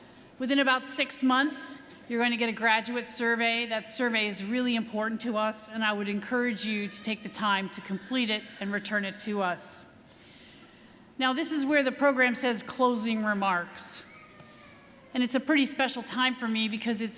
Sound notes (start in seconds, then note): none